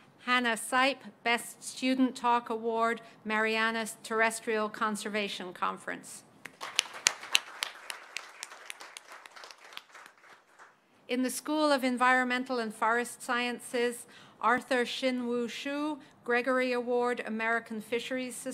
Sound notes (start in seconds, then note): 6.4 applause